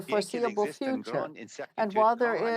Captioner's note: speaking french